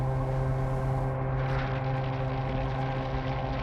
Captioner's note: fire raging